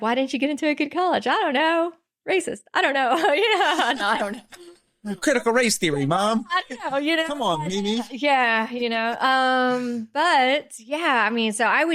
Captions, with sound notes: why didn't you get into a good college? I don't know. Racist, I don't know. (laughing) I don't know. Critical race theory, mom. I don't know. Come on, Mimi. Yeah, you know. But yeah, I mean, so I